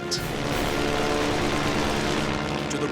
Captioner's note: weapons firing